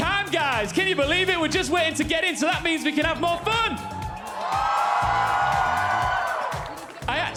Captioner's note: cheers and applause